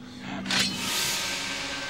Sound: knife noise

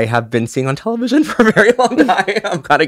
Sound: laugh

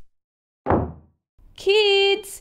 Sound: front door closes

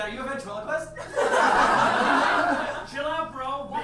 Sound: audience laughs

